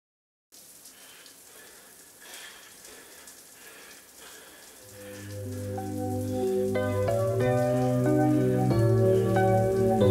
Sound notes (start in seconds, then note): 0.9 shower water splashing; 6.4 upbeat music begins